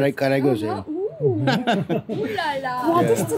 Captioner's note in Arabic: ضحك